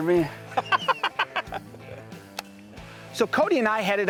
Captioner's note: laughter